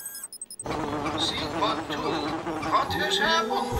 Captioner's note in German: lautes Summen; summen